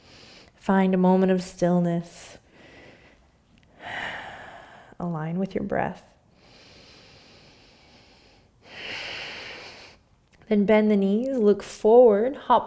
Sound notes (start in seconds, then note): 6.4 inhaling; 8.6 exhaling